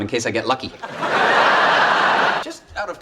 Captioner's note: audience laughs